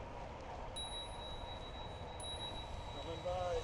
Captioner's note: ding! #1